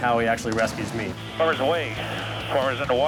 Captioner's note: man On Radio